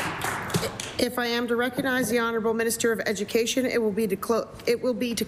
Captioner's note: applause